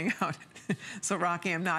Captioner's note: laughter